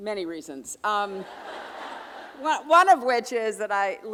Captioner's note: audience laughing